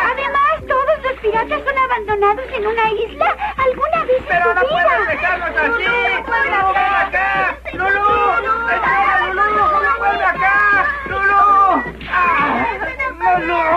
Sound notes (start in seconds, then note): 5.6 indistinct chatter; 6.4 desperate chatter